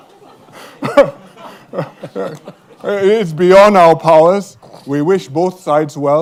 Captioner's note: chuckles